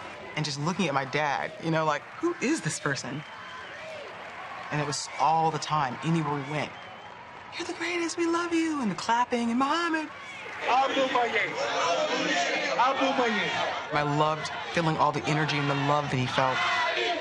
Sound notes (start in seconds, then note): 11.7 crowd